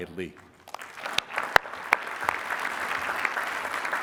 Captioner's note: applause